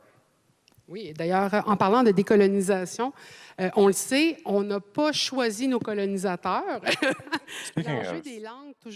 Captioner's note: speaking French